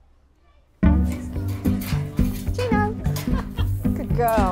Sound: gates rattling

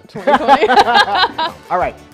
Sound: laughs

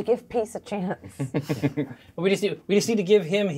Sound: co-hosts laughing

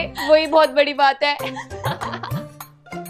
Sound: laughing

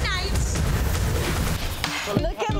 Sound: logo whooshing

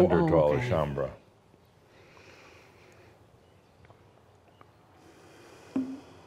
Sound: pause as takes another deep breath

